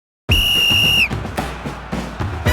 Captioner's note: referee whistle tweets; energetic marching band music